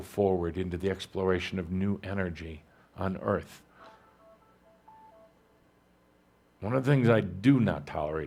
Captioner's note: the chiming of a cell phone goes off